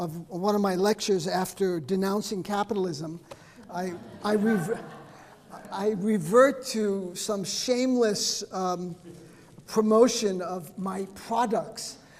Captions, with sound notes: of one of my lectures after denouncing capitalism. (audience laughing) I revert to some shameless promotion of my products.